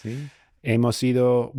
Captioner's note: speaking in foreign language